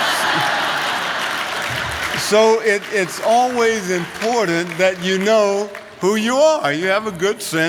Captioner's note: laughter